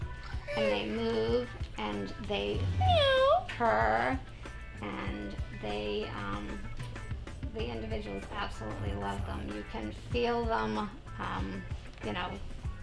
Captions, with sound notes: and they move and they purr (companion pet crying) and the individuals absolutely love them. You can feel them, you know, like breathing